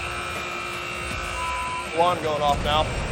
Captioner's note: alarm blares